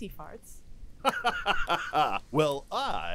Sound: Magnar laughs sarcastically

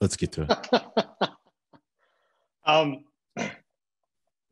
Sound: laughing

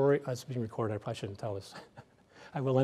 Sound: laughs

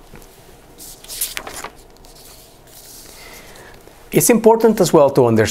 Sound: pages turn

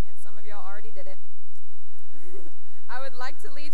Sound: laughter

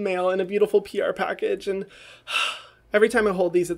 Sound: sighs

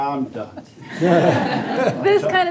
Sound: all laugh

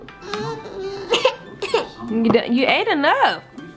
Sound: coughing

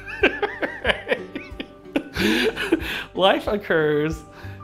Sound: laughter

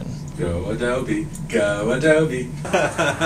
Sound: sing-song; laughs

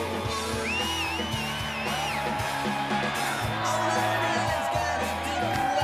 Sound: crowd cheering

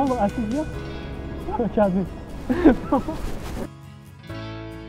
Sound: laughs

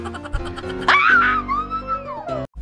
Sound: screams

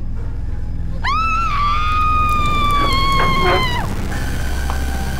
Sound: woman screaming; dramatic music

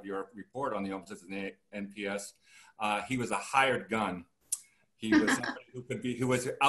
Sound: laughter

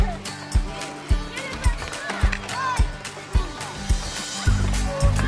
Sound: students playing

